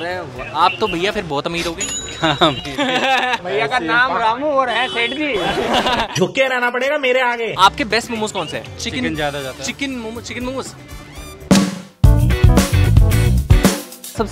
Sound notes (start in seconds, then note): 2.1 chuckles; 5.1 laughing